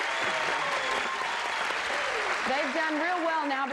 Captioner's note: applause